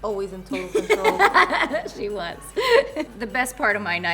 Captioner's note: laughs